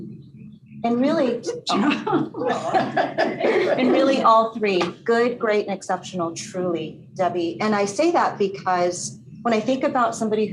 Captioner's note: laughter